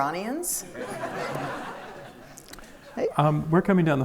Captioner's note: audience laughs